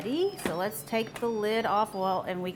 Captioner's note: Instant Pot chimes